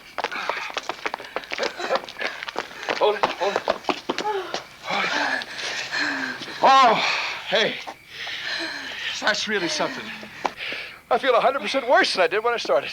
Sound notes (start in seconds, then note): 5.3 both panting